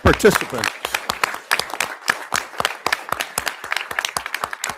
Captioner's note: audience applauding